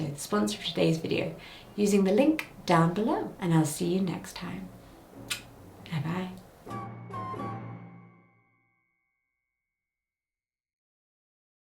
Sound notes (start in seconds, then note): 5.2 lips smacking; 6.6 suspenseful music